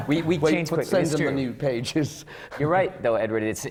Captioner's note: laughs